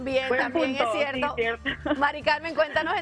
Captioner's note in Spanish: risas